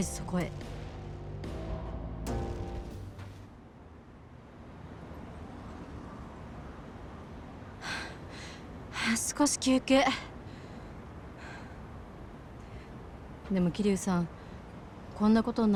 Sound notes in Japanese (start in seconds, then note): 7.8 ため息; 8.3 息をのむ音